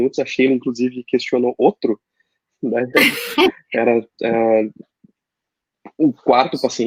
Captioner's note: laughs